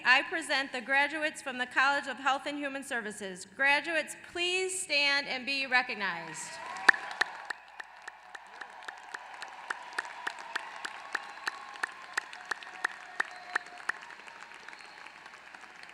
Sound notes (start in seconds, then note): 7.8 applause